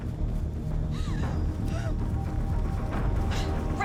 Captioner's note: Raven sobbing and panting